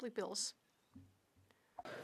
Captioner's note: speaking French